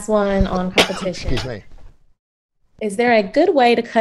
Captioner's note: cough